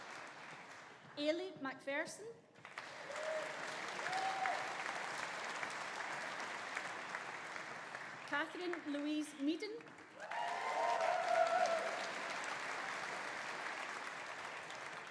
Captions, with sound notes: Ailie Macpherson. (AUDIENCE APPLAUDING) (AUDIENCE CHEERING) Katherine Louise Meaden. (AUDIENCE APPLAUDING) (AUDIENCE CHEERING)